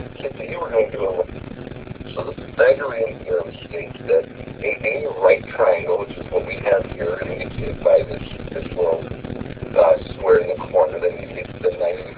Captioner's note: lesson audio plays